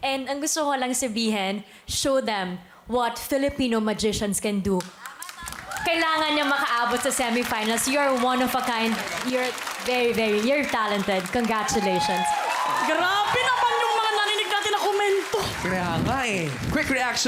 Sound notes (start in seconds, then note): 13.0 applause, cheering